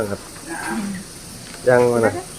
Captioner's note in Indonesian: Tertawa